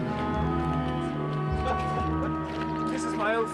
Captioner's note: Tertawa